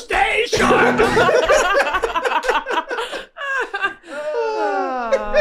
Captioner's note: group laughing